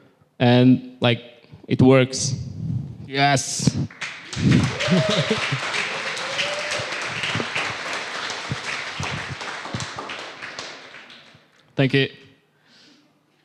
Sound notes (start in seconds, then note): 3.8 applause